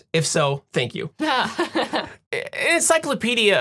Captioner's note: laughing